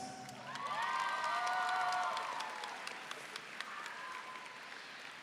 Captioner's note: audience cheering